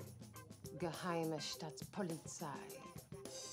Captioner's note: speaking German